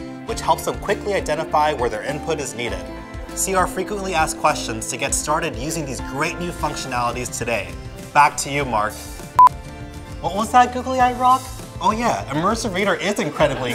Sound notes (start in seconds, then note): 9.4 sharp beep